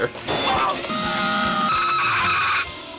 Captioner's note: shrieks